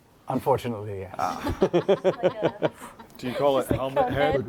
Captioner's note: laughter